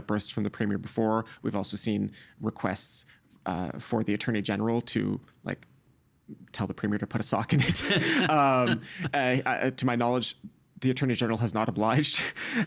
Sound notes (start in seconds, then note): 7.6 laughing